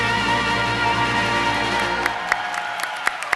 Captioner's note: applause